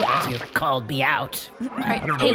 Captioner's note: squishing sound